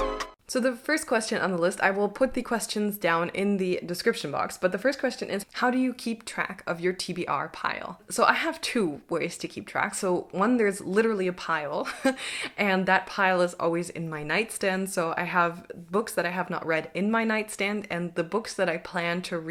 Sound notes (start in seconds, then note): 11.8 chuckles